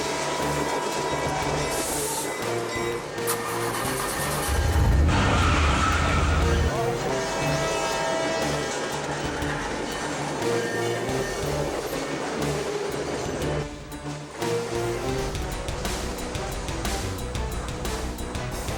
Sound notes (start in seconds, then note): 0.1 train horn honking; 5.4 tires screeching; 7.4 train horn honking; 10.1 thrilling music; 16.1 upbeat music